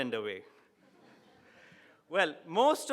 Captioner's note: audience laughing